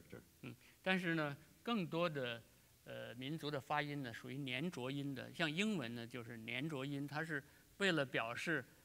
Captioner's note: speaking in Chinese